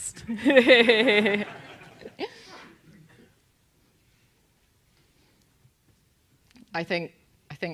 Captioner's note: laugh